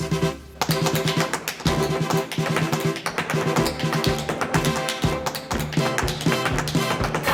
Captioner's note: dramatic upbeat music; shoes tapping